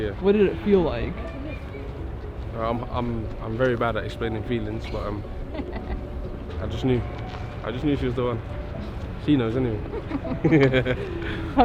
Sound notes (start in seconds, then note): 5.4 partner laughing; 9.8 couple laughing